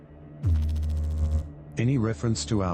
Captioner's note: electrical noise